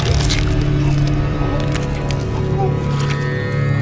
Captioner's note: groans